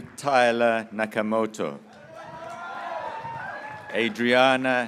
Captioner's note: graduates cheering